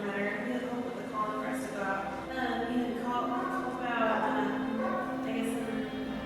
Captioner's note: woman speaking on telephone